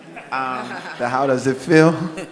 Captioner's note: all laugh